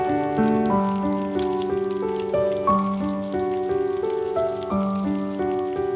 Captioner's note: fry pan sizzle continues